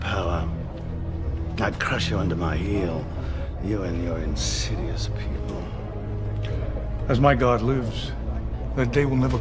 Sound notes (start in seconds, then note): 2.3 sighs